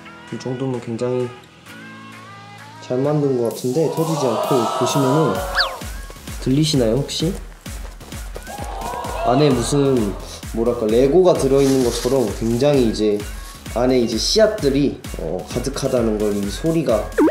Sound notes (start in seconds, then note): 5.4 gooey & rustling asmr